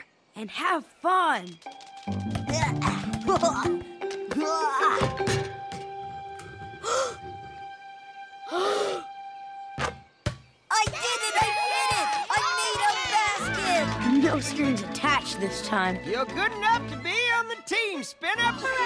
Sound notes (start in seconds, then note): 6.8 gasp; 8.5 gasps; 18.6 cheering